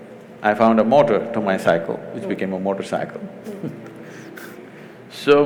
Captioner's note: laughs